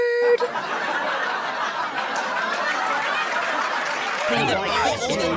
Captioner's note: laugh track, applause